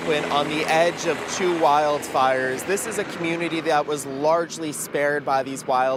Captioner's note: sound of helicopter